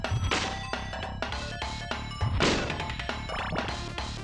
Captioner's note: whip lashing